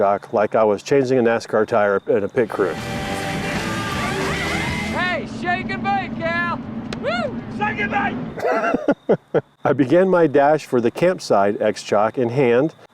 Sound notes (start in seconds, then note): 2.5 rock music; 8.4 laughs